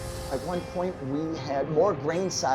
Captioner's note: whooshing sound